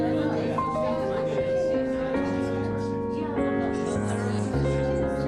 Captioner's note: lively chatter